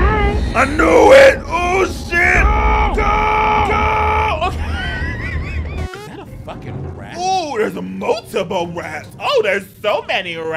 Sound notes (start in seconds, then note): 4.5 laughs; 5.7 video buzzes